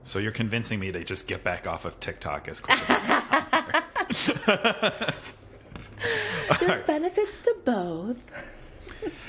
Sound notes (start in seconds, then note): 2.7 laughing